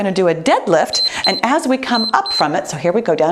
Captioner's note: timer beeps